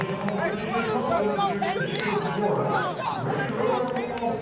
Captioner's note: crowd chatter